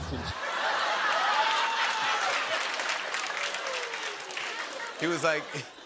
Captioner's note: laughter